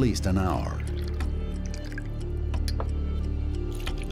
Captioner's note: pouring liquid